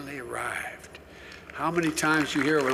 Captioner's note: applause